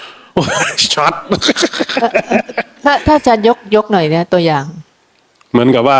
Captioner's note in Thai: เสียงหัวเราะ